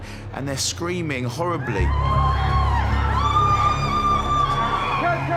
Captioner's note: screaming